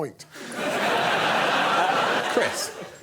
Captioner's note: laughter